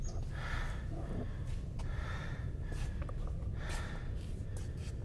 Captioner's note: heavy breathing